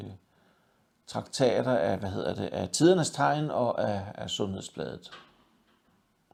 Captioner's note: in Danish